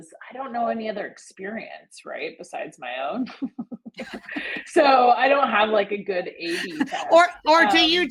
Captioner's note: laughs